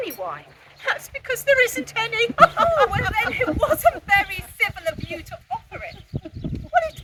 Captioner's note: laughing